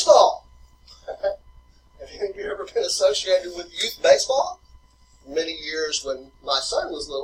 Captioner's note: laughing